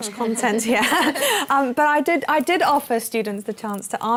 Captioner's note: laughs